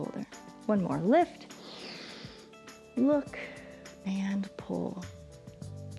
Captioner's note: inhales